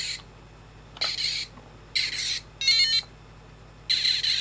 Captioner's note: tape rewinding